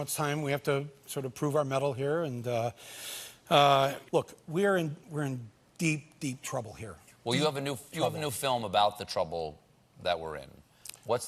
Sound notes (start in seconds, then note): none